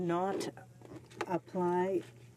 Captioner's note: speaking French